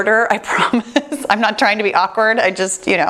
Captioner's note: laughs